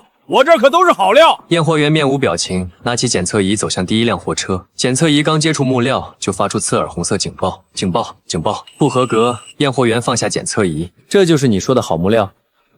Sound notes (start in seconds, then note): 8.4 beep, beep, beep!